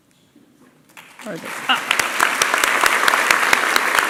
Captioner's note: applause